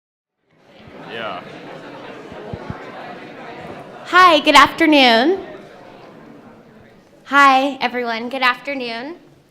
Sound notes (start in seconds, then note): 2.0 attendees conversing with each other